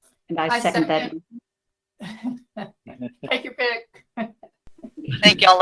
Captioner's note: laughs